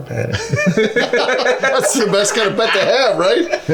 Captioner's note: laughing